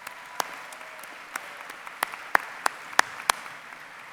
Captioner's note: applause